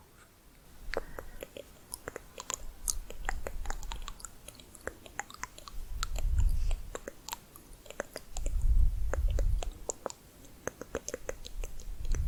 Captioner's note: layered clicking and bubbling